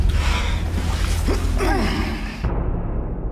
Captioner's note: grunts